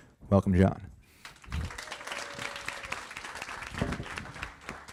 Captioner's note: applause